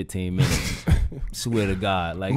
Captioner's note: Quentin laughing